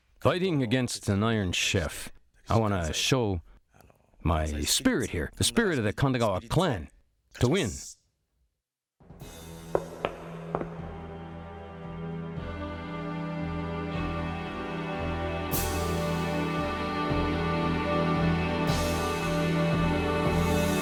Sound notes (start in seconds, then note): 10.5 footsteps echoing; 11.4 dramatic music